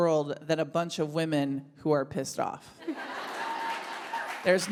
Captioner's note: audience applauds